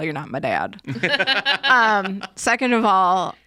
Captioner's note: laugh